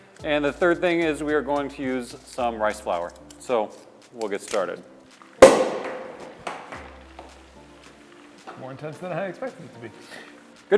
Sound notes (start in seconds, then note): 5.4 wine cork pops